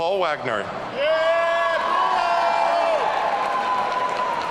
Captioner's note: audience cheering